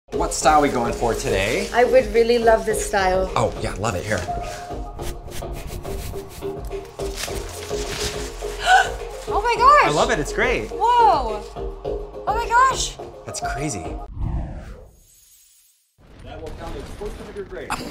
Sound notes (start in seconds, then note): 8.5 gasps